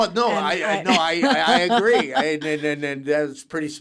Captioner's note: laughs